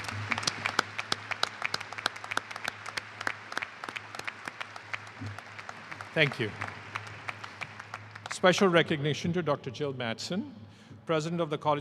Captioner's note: applause